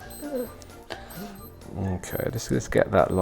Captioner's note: watch bleeping